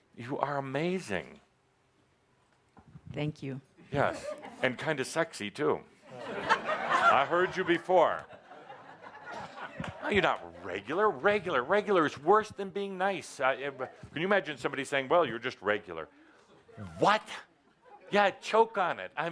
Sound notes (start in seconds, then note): 6.0 laughter